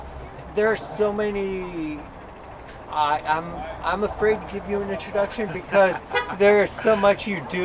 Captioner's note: laughs, car horn beeps in background